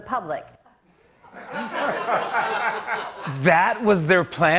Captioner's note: laughter